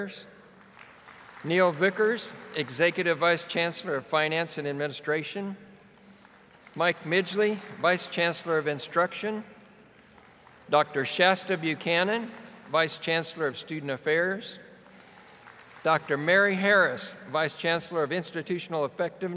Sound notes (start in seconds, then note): 0.5 audience applauding